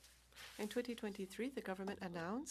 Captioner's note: speaking French